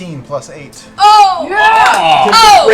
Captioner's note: cheering